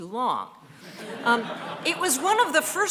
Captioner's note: audience laughing